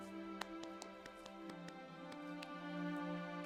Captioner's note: clapping